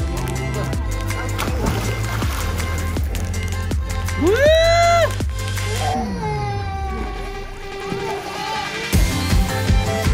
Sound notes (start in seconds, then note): 0.8 water splashes; 4.2 cheers; 5.6 kid cries in the background